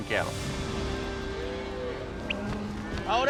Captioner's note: cows moo